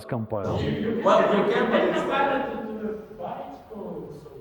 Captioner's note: audience laughing